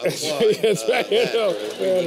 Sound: applause

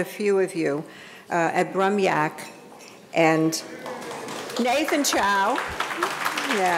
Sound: audience applauding

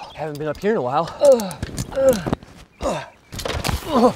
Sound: grunts

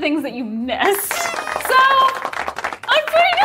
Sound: audience applauding; party blower squeaks

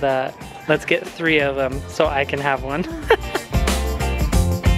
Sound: laughs; upbeat music

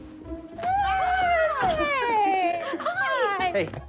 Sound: sounds of Christmas happiness

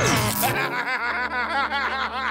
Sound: electronic blast; laughing

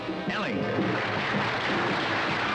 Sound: audience applauding; instrumental music

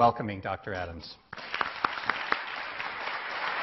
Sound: clapping

